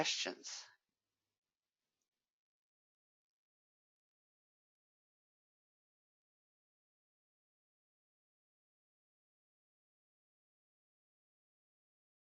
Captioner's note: 14 seconds pause